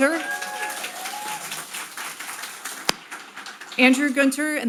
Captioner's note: audience applauding